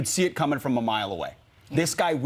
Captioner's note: none